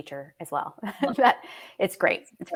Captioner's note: chuckles